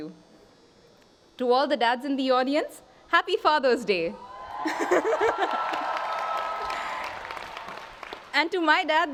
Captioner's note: applause